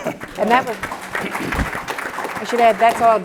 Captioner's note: applause